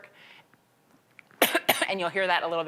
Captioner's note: coughing